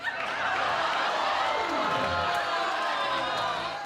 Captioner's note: laughing